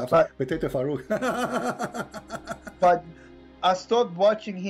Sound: Ketawa

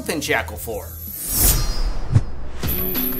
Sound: animation swishing; upbeat music

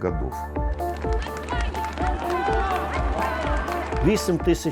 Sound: cheers, applause

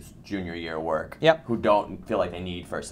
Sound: voiceover

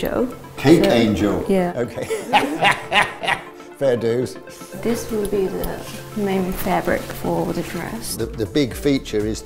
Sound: laughs

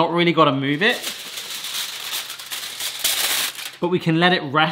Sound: foil rustling

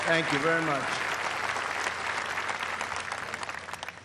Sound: applause

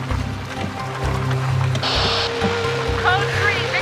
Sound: radio static

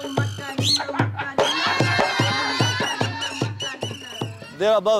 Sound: sound effects - whistles, laughter

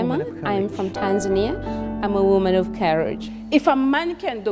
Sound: multiple women's voices

